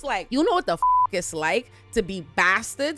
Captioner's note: beep